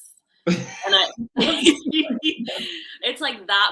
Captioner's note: laughing